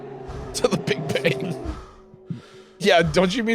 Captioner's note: laughing